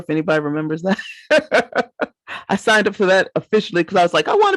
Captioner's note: laughs